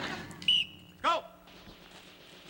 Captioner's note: laughter; blows whistle